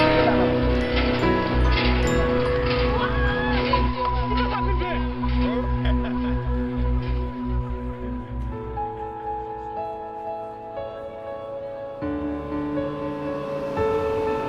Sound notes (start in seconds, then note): 0.5 pumping sounds; 8.6 soft piano music